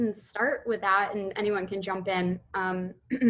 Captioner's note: clears throat